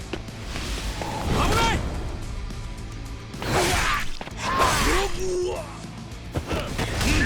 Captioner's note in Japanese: うめき声